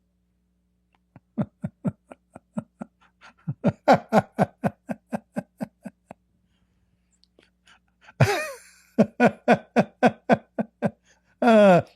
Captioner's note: Ketawa